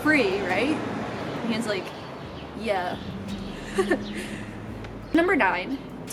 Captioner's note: laughs